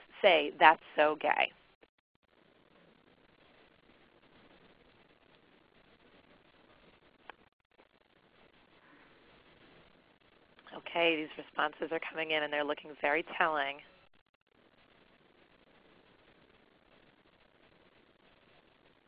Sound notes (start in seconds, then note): 0.0 silence; 16.6 silence